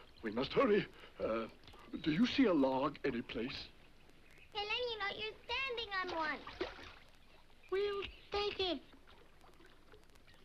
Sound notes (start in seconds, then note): 5.0 water splashes